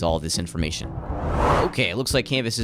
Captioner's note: swooshing Sound Effect